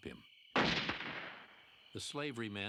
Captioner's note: gunshot